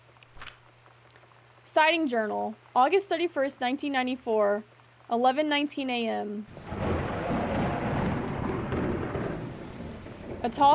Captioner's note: thunder